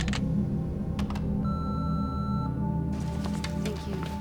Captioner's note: clicks and beeps